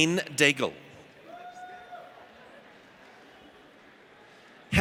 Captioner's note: audience cheers